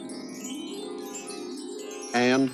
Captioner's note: chimes jingling